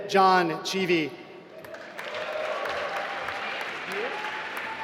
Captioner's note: applause